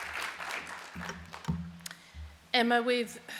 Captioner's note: applause